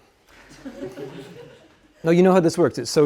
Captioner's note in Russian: студенты смеются